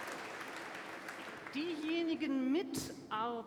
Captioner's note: applause